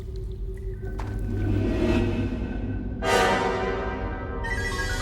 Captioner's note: scary sounds